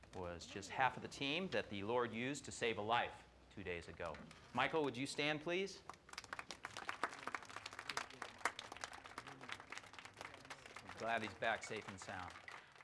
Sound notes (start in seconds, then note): 5.8 applause